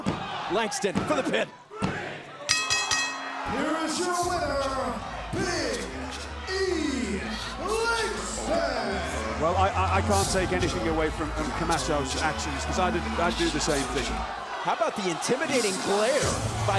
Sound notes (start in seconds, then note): 2.0 crowd cheering; 2.4 bell ringing